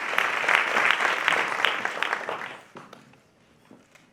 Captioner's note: applause